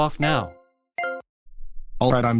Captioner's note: beeping